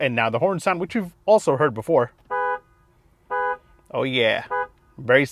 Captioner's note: car hoots